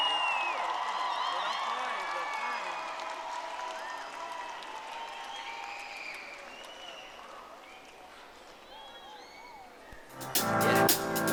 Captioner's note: audience applauding